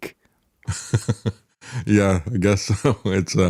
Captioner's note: laughs